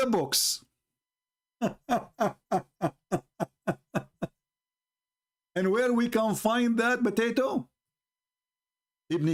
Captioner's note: Ketawa